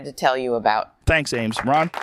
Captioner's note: light applause